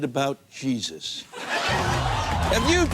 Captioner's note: laughter